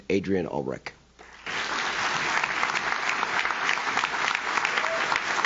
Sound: audience claps

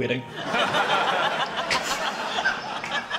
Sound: laughter

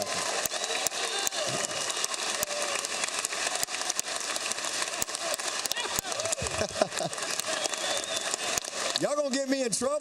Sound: applause

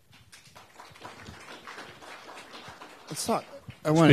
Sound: applauding

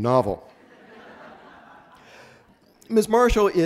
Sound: audience laughs

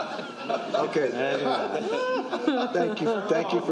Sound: laughter

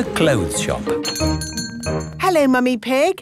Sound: doorbell chiming

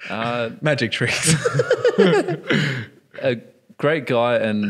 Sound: laughing; laughs

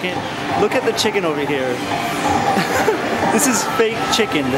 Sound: laughs

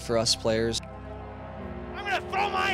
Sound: goal horn

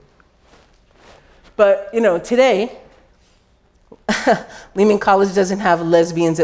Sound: laughs

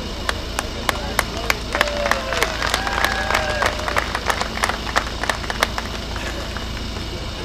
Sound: clapping

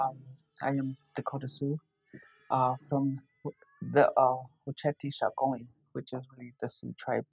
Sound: speaking sioux

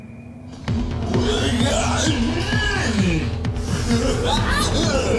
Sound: Strobo groaning

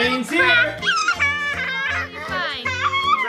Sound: laughing

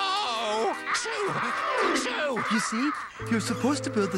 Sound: cawing

